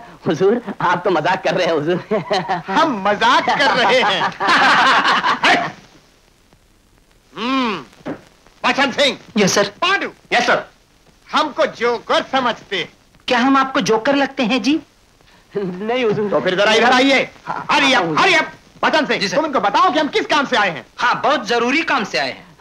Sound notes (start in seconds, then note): 4.4 laughing